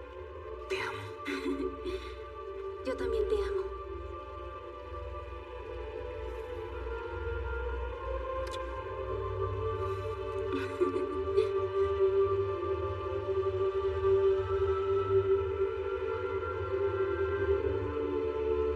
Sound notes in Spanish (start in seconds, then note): 5.3 Ríe